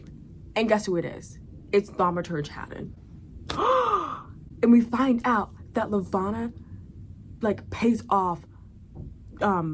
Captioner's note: gasp